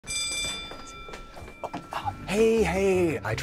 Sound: bell rings

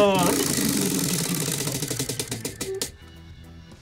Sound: wheel clatters

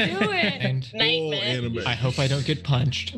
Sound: group chattering

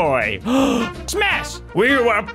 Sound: gasp

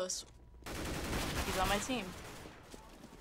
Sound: firing

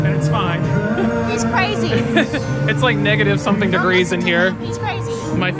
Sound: laughs

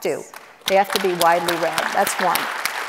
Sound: audience applauds

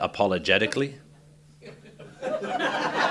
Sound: laughter

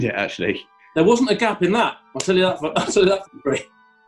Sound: splutters

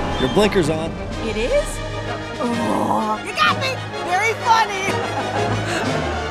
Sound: laughing

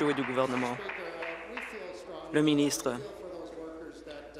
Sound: applause

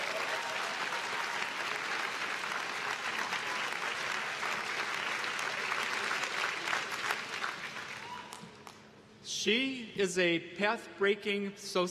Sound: applause

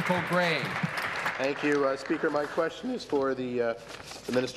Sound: applause

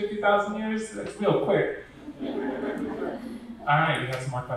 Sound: audience laughing

